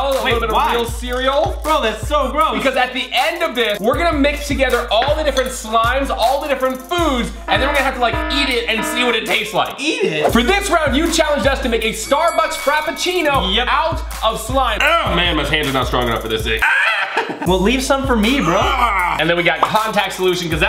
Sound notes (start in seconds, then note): 14.8 struggling sound; 16.6 screams